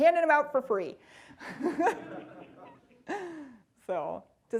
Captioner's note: audience laughing